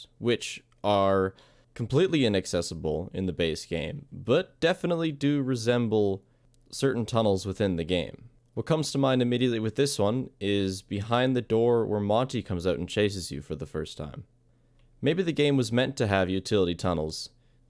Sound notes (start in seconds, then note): none